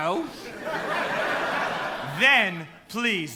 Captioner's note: laughter